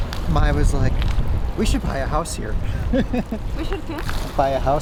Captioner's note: laughs